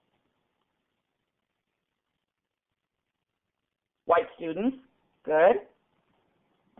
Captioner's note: pause